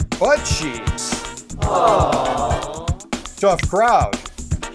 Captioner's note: audience: crowd groans